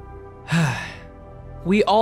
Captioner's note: sighs